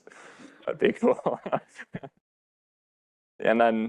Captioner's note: laughs